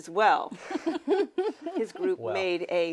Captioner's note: panelists laughing